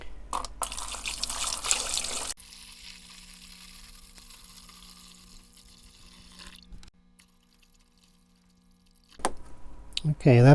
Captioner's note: pouring